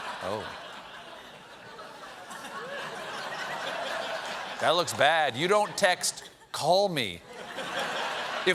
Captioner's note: laughter